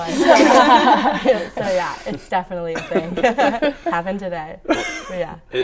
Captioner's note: laughter